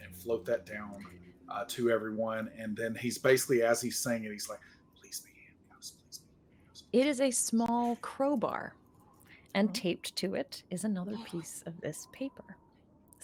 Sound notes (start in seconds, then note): none